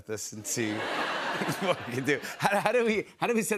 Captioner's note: laughter